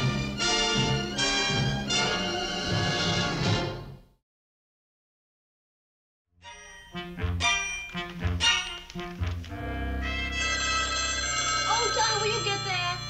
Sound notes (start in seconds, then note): 9.5 phone rings